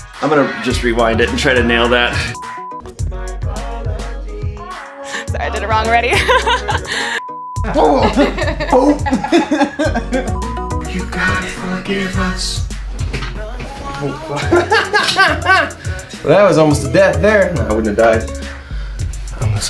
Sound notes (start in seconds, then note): 2.3 beep; 7.2 beep; 7.6 both laughing; 7.6 laughs; 10.3 beep; 14.3 laughs